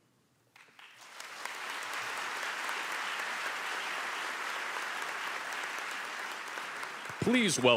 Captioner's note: applause